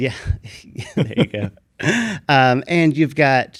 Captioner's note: laughs; chuckles